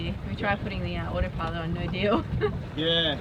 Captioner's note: laughs